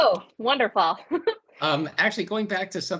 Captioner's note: laughs